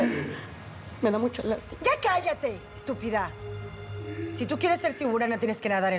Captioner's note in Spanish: llorosa